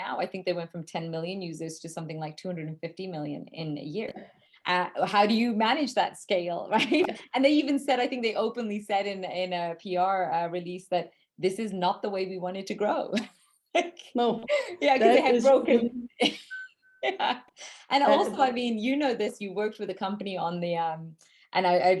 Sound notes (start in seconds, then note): 14.4 laughs; 18.1 laughs